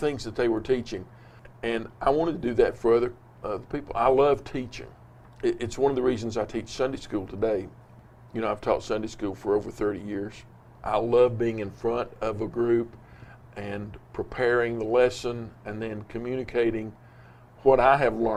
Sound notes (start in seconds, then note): none